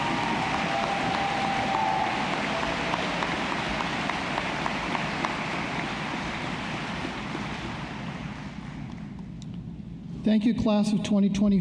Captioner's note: applause